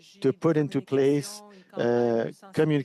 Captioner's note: speaking French